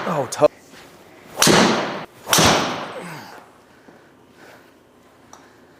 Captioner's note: club smacks ball repeatedly